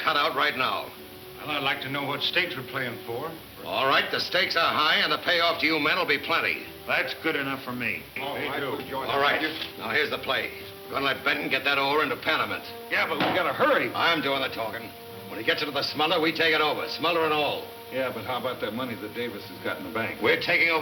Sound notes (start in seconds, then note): 6.9 men chattering